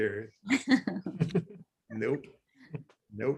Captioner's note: laughs